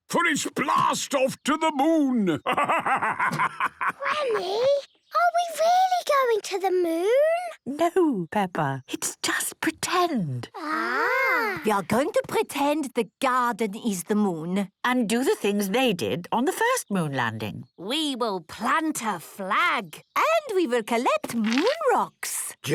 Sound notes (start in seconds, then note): 3.7 whispers